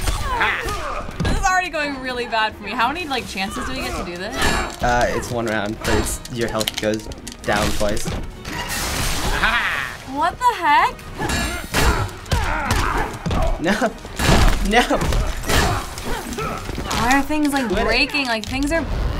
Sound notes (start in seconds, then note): 8.6 water splashing; 11.2 weapon clanking, grunting